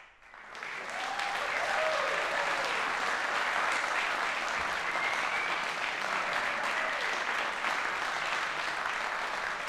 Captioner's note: applause